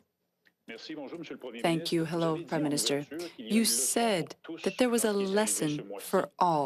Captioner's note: speaking French